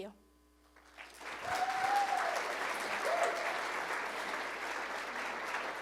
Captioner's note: applause